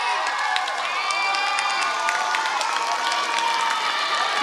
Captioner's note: applause